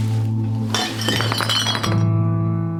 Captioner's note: ominous music; bottles crashing